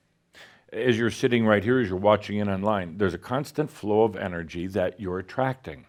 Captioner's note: none